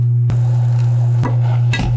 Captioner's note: sizzling